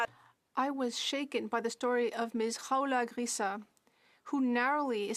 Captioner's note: speaking French